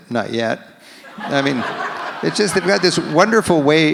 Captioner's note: audience laughs